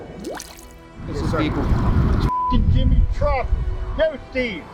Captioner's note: beep; faintly speaking